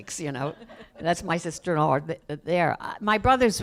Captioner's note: laughter